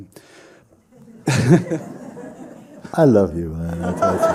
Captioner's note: laughter